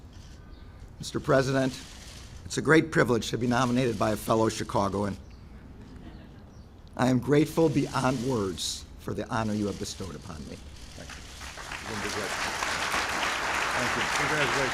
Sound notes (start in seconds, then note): 11.0 applause